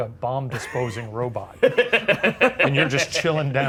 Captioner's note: Ryan laughing